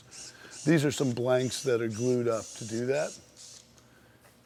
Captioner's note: screwdriver whirling